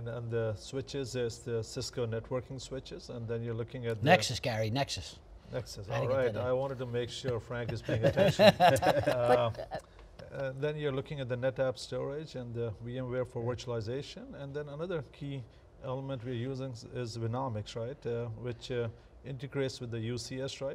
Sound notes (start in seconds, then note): 7.5 panel laughs